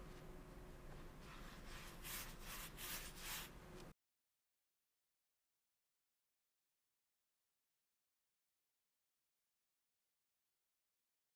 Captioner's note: silence